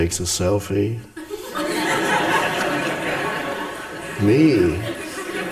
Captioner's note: audience laughs